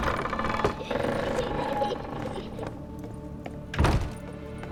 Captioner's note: child's laughter, distorted and faint